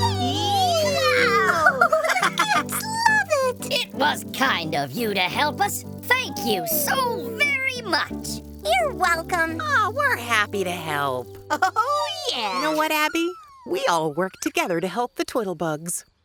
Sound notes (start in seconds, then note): 0.0 cheering